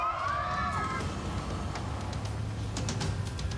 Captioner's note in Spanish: gritos y exclamaciones